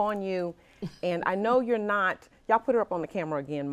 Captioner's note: chuckles